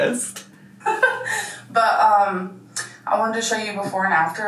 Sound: laughs

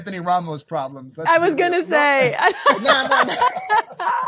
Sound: laughing

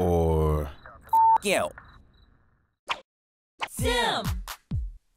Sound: beep

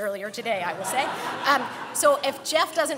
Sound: laughing

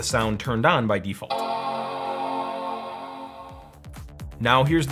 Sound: computer chimes

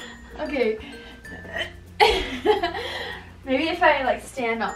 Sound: laughs out of breath

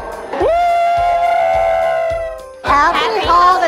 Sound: group cheering

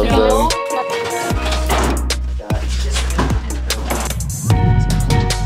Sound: thudding; chattering

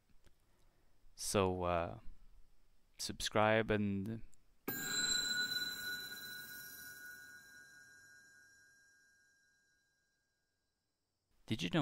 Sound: bell ring

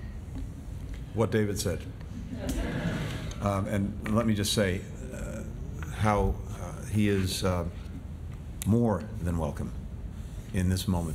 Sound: laughter

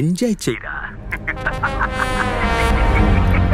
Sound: laughs

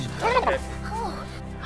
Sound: gasping

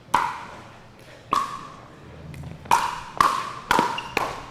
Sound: ball bouncing

